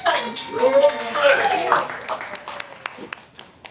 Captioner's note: cheering